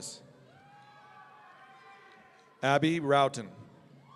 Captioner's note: audience cheering